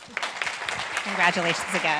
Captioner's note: group applauds